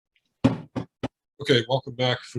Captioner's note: sounding the gavel again